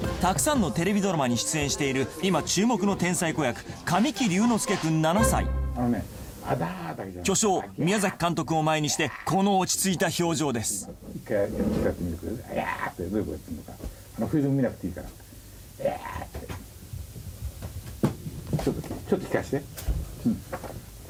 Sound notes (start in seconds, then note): 15.8 grumbling